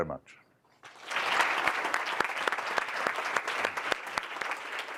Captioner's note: applause